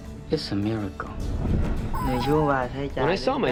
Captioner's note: speaking vietnamese